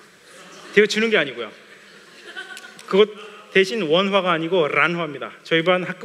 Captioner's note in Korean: 웃음